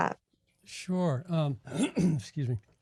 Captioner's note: clears throat